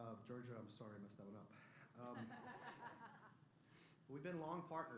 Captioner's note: laughter